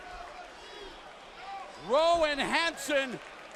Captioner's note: crowd chatter